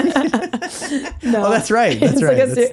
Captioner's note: laughing